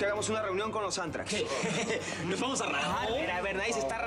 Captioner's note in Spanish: risas